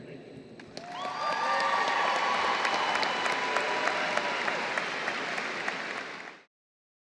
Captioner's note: applause; cheers